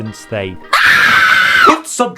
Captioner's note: woman screams